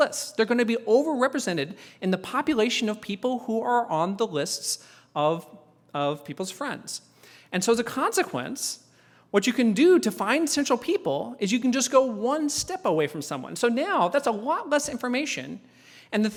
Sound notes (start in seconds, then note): none